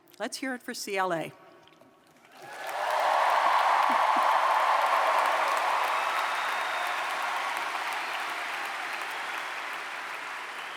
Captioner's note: cheers & Applause